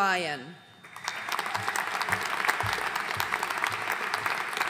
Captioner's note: audience applauding